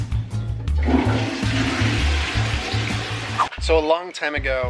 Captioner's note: water splashing and gurgling; air whooshes